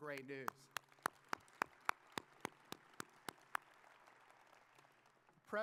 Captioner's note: audience applauding